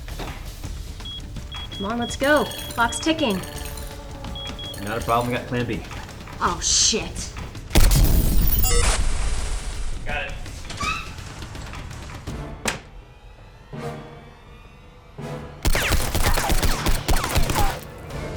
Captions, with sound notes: (keypad beeping) - Come on, let's go, clock's ticking. - Not a problem, I've got plan B. - Oh shit! (gun firing) (explosion) (gun firing)